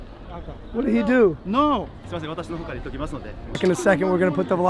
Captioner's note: Speaking Japanese